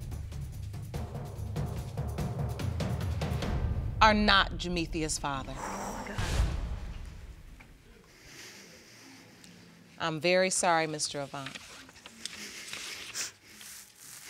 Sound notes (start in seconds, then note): 5.5 sighs